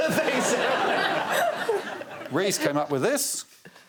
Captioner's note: laughter